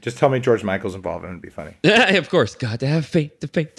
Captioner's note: laughs